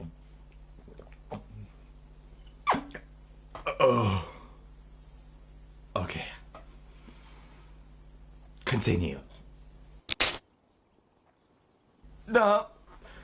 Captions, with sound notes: Ok. Continue. (Snap) Nope.